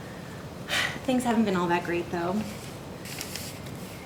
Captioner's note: sighs